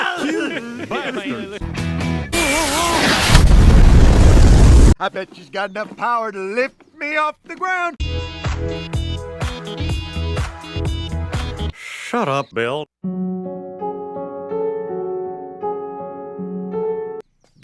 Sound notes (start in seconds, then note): 0.0 Hank Friends Laughs At Him; 2.4 boom